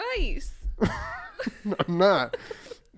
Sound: wheeze laughter

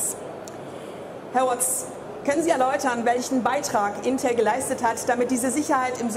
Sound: speaking in foreign language

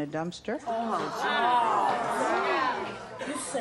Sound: audience gasping

